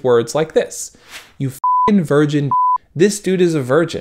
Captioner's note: beep